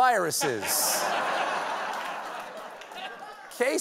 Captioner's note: laughter